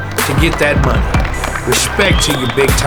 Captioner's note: clapping